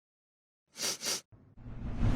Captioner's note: sniffs